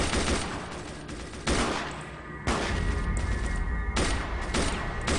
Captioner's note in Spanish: Disparos